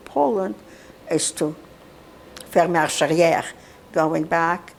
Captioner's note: non-english